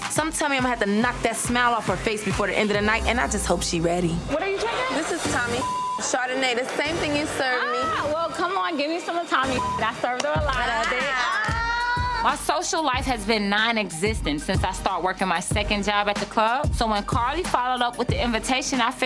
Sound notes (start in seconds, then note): 5.3 beep; 9.4 beep; 10.6 group laughs